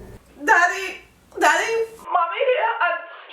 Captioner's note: crying